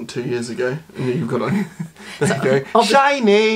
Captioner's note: laughs